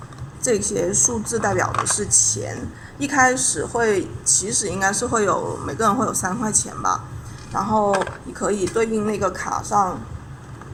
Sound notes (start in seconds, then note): 0.0 explaining in Chinese